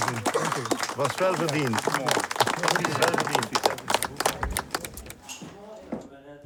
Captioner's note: speaking in foreign language